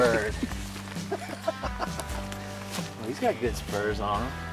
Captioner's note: laughs